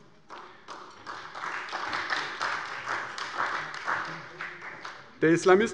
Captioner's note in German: Beifall bei der CDU und dem BÜNDNIS 90/DIE GRÜNEN